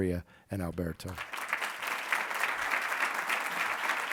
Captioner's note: applauding